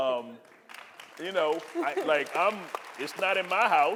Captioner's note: audience applauding